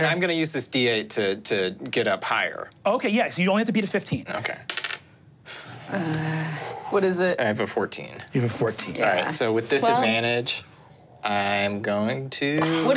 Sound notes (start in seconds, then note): 4.6 die taps table; 7.6 groans